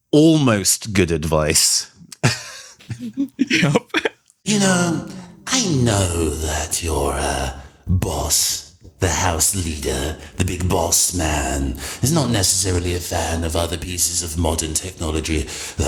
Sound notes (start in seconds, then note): 2.0 laughs